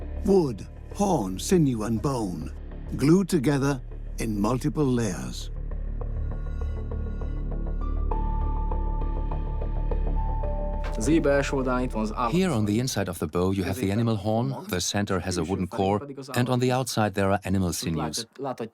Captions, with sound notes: wood, horn, sinew and bone. Glued together in multiple layers. (in Hungarian) (dubbed in English) The inside of the bow is animal horn. The centre has a wooden core. On the outside there are animal sinews.